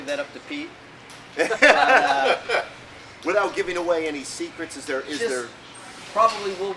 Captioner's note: laughing